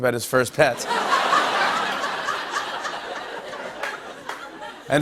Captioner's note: laughter and applause